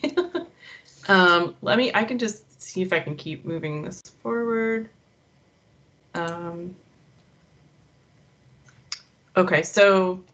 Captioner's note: chuckling